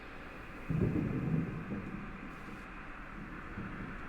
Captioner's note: thunder rumbles